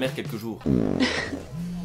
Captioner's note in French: Bruit de pet